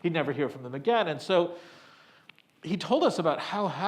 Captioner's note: none